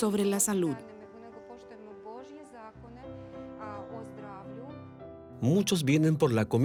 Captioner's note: Hablando idioma extranjero